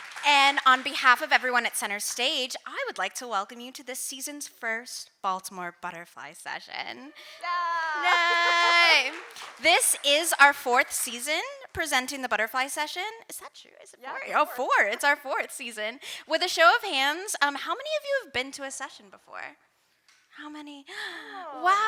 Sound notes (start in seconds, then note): 0.0 audience cheering and applauding; 7.3 hosts cheering; 8.0 audience applauding